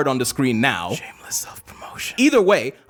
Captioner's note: whisper